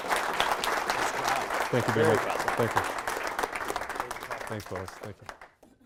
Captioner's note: applause